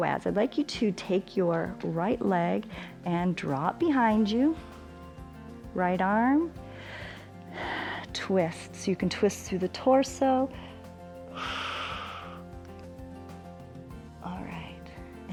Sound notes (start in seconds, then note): 6.6 inhales and exhales; 10.5 exhales